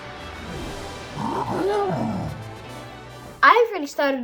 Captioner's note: Charizard groans